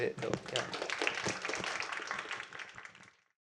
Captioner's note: applause